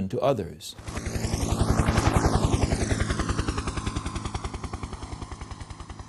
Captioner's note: helicopter flying